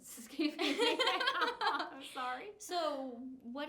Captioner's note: laughs